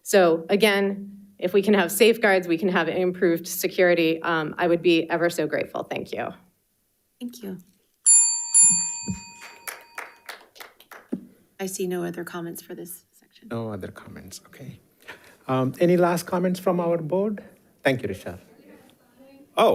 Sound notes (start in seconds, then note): 8.0 bell dinging; 9.4 audience applauding